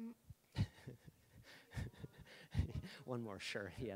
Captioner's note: laughing